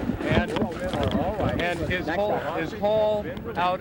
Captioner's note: people chattering